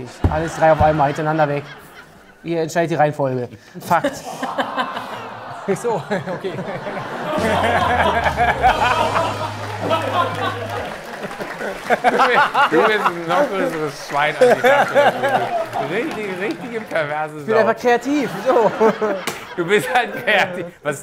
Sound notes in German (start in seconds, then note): 3.8 Gelächter; 6.6 Frecher Gitarrenakkord, Gelächter; 11.9 Gelächter, Applaus, Durcheinanderreden